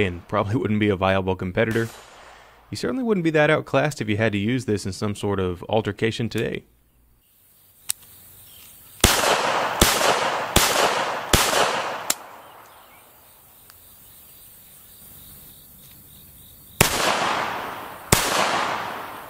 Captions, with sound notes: and probably wouldn't be a viable competitor, you certainly wouldn't be that outclassed if you had to use this in some sort of altercation today. (clicking) (gunshots) (clicking) (gunshots)